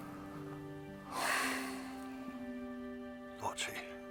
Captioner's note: sighs deeply